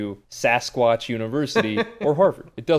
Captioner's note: laughs